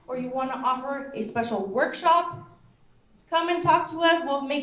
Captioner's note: none